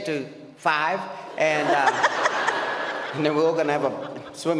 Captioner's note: audience laughs